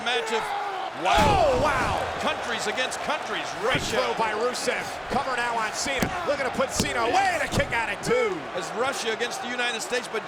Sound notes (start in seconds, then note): 1.1 body thudding; 4.7 hands thudding